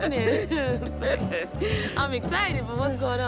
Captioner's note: laughs